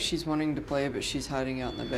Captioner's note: high-pitched tone